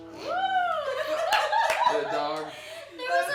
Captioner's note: laughing